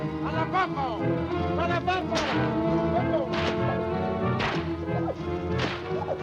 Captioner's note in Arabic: فرقعة السوط; موسيقى الأوركسترا المتأملة